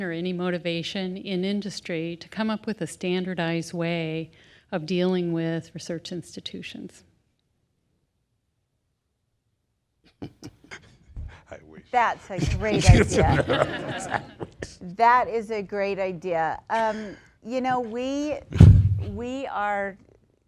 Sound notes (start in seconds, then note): 12.2 chuckles; 12.3 laughter